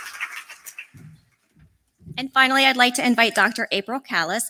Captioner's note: applause